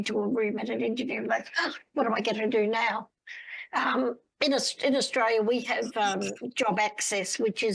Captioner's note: gasp